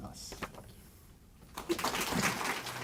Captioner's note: whispers; audience applauding